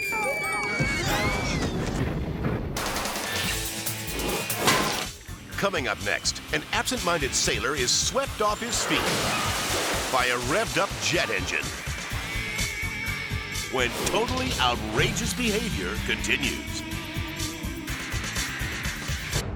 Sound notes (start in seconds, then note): 0.2 family members yelling; 9.3 engine explodes